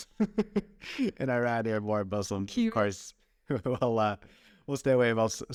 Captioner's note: laughter